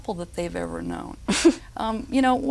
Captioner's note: nervously laughing